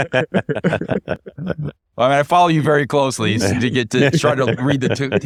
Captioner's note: laughter